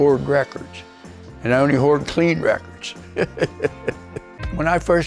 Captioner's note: laughing